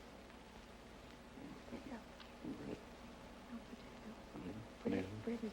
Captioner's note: whispering